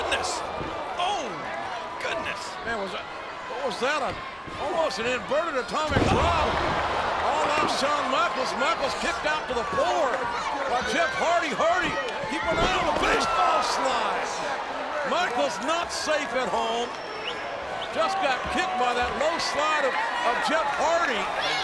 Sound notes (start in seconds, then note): 6.9 audience cheering